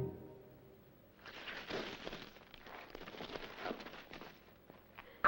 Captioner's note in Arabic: صوت حفيف